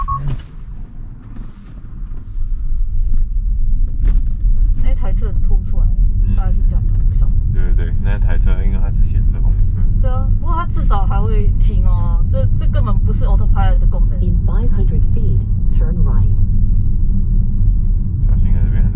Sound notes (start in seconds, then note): 11.9 sudden brake